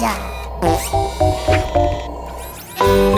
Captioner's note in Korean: 방귀소리